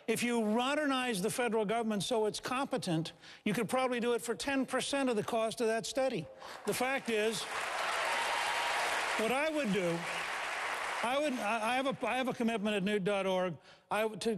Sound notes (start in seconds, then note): 6.5 applause